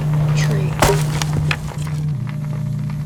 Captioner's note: sound of wood being pulled from itself and breaking